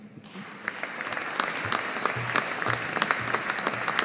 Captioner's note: audience applauding